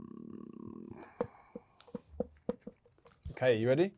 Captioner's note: marker thuds